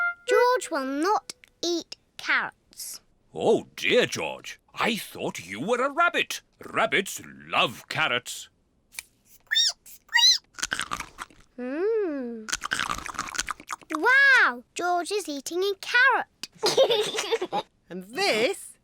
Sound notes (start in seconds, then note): 10.1 squeaks and crunches; 16.6 giggles